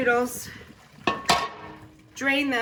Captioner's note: metal pans clink